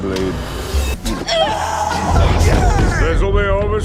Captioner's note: screaming